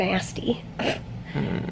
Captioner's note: snorts